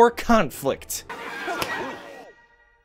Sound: snap

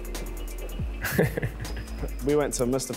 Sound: laugh

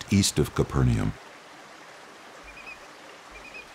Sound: soft lakeshore sounds

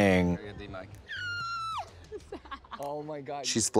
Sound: screeches

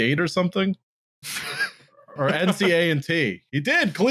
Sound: laughs

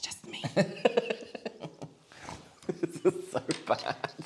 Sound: nervous Laughter

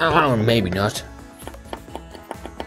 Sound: groans

